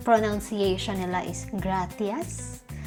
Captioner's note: with a lisp